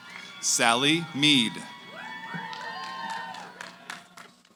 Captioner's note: cheering